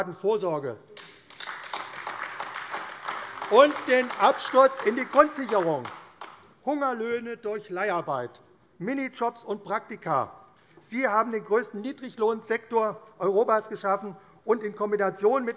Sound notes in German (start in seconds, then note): 5.4 Beifall AfD